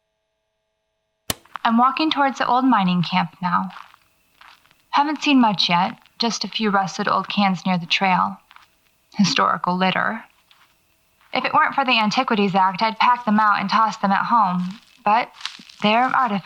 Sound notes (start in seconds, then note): 1.0 click